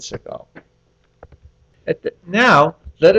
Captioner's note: pause